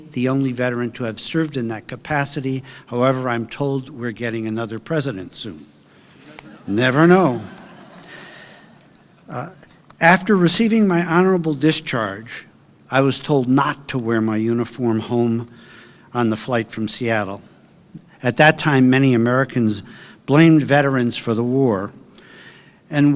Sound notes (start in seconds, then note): 7.8 audience laughing